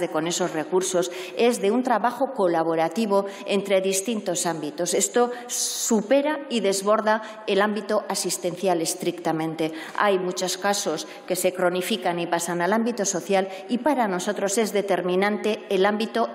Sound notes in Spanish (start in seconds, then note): none